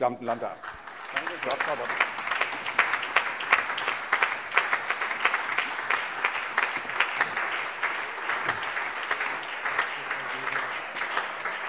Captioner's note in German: Allgemeiner Beifall